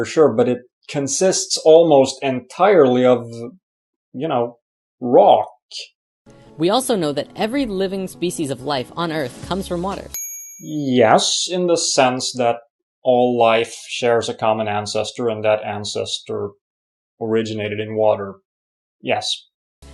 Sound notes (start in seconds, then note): 10.1 ding!